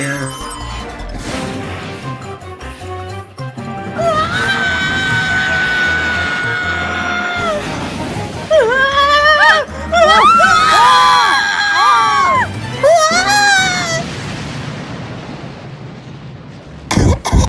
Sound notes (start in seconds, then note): 4.3 Amy yells; 10.0 all yell; 12.3 Amy gasps